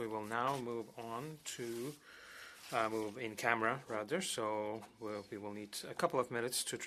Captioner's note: speaking French